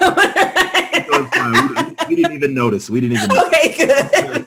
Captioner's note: laughter